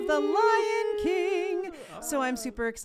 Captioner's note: all wooing